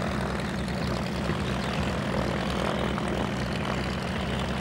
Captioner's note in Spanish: ruidos de hélice de avión